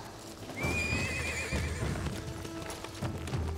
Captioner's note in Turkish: At kişneme sesi